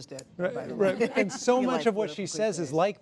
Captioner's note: laughter